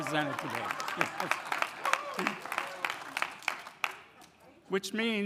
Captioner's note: audience applauding